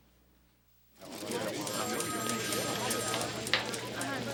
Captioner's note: phone ringing